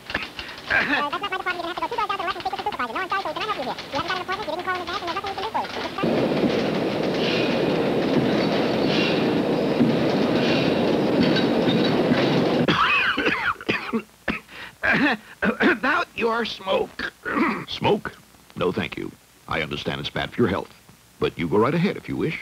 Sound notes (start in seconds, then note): 0.0 coughs; 5.3 machinery clanging; 12.6 coughing